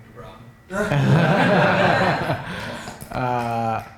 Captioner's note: laughter